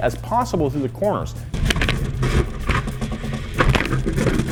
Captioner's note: car clanks